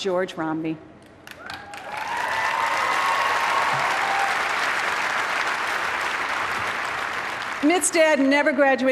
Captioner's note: applause